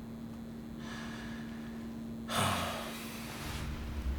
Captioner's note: sighing